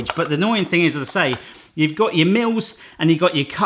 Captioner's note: none